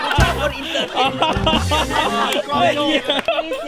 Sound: laughs

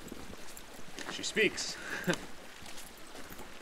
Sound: chuckles

